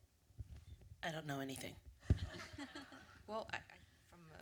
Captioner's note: laughter